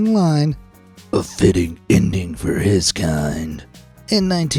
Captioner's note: in a deep batman voice